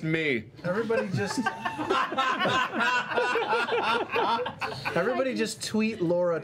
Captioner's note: laughter